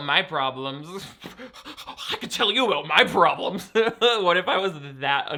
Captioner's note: pants